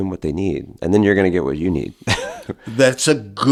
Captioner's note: chuckles